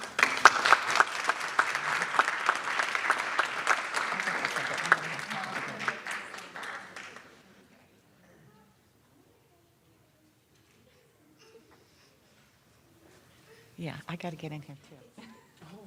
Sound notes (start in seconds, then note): 8.2 applause